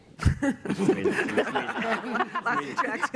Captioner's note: laughter